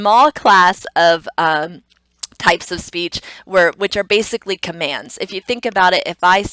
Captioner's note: tongue clicks